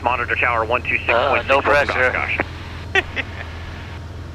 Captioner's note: laughing